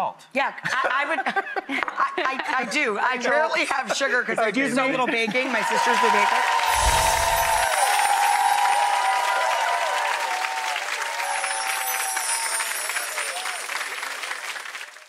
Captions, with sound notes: Yeah, I do, I rarely have sugar because I do so little baking, my sister's the baker. (audience applauding) (bells tinkling)